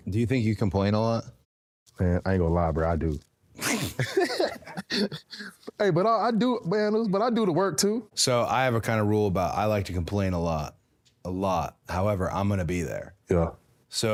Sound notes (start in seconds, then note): 3.6 both laughing